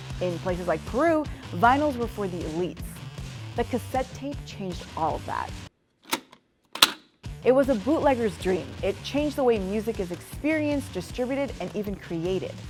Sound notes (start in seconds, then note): 6.7 cassette tape sounds